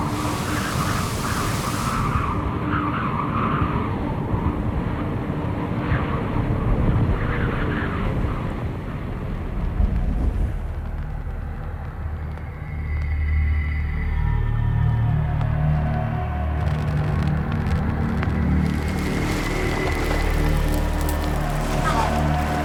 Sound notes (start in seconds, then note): 0.0 waves crashing; 0.1 ambient music continues; 5.1 wind blustering continues; 16.9 ambient music continues; 16.9 fire crackling